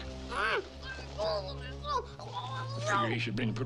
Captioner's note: Ben fussing; Ben mumbling urgently